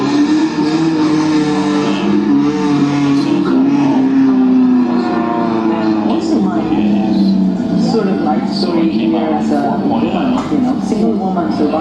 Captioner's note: background: loud car engines